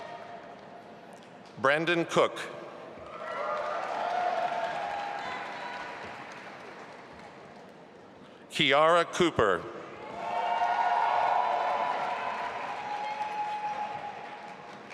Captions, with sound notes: Brandon Cooke. (audience applauding) Kiara Cooper. (audience applauding and cheering)